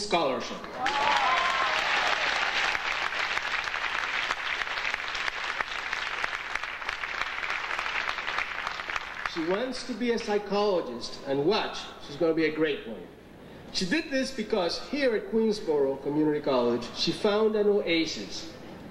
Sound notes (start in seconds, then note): 0.7 audience applauding